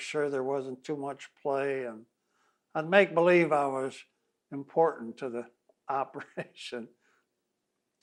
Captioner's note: laughs